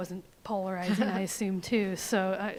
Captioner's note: laughs